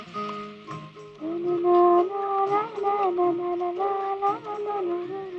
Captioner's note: humming